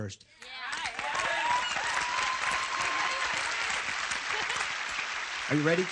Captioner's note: applause